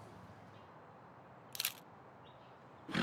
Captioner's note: camera shutter flashing; bull snorting